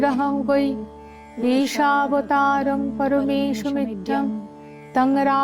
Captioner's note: chanting